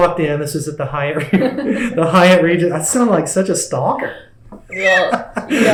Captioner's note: laughter